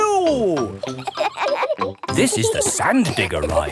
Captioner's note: kids laughing